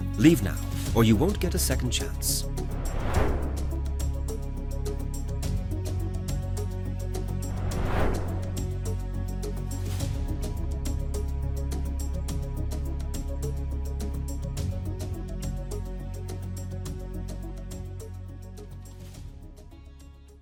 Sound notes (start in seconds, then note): 2.5 transition whooshing; 4.2 suspenseful music continues; 7.4 transition whooshing; 9.0 suspenseful music continues; 16.5 suspenseful music continues